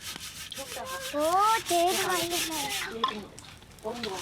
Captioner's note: foreign spoken audio